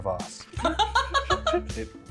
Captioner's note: laughter